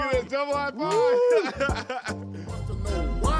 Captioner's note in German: lacht